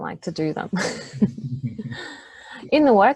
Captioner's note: both laughing